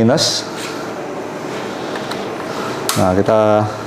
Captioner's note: inhale; damper clip sound